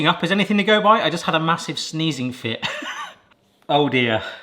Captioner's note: chuckles